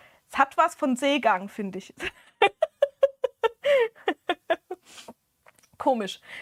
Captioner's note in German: gelächter